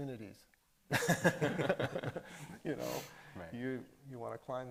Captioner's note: everybody laughing